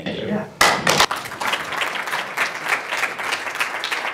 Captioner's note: applause